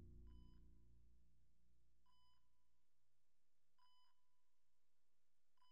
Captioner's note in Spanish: monitor cardíaco pitando